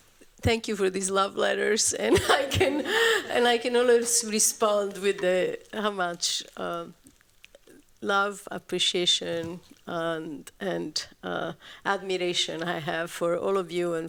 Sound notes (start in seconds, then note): 2.0 laughs